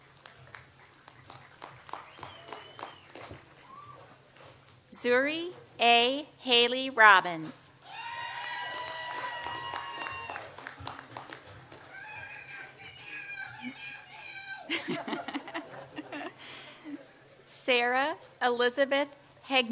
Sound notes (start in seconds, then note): 0.0 audience applauds; 7.9 audience applauds; 14.9 laughs